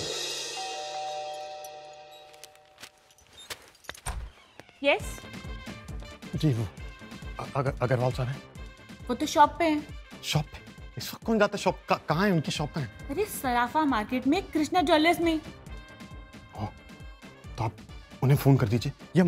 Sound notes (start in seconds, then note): 0.4 doorbell ringing; 3.8 door opens